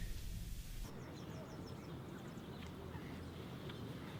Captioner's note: birds chirping